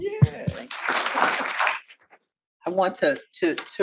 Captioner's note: audience applauding